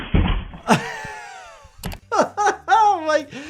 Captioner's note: doctor laughs